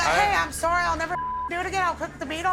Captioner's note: beeping